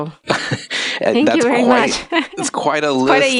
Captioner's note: laughing